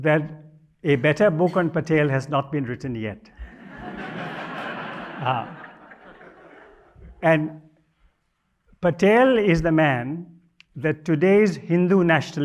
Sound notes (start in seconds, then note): 9.5 audience chuckles